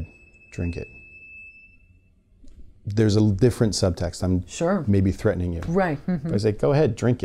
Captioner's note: says it in a sinister tone